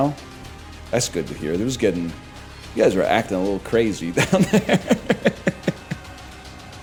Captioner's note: laughs